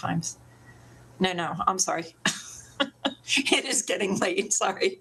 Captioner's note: laughs